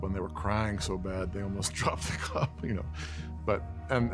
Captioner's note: laughter